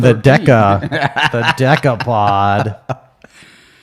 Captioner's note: laughing